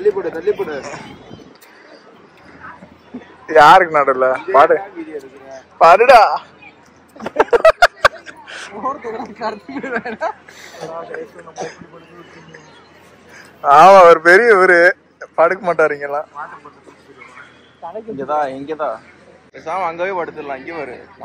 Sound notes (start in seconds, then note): 7.2 laughs